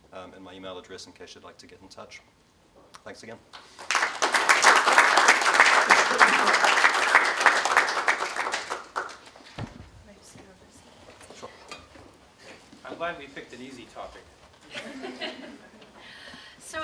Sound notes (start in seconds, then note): 3.7 applause